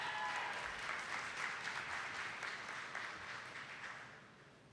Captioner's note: attendees clapping